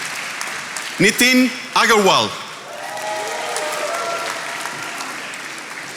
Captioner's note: attendees applauding